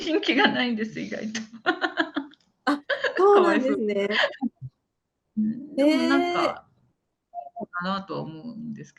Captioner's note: laughter